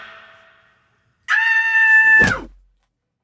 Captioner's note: thump